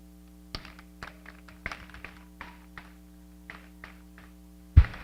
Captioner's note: applause